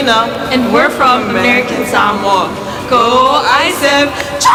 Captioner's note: cheer